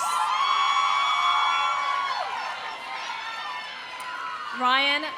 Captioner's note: audience cheering; audience applauding